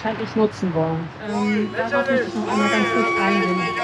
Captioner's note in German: Pfui! / Buhrufe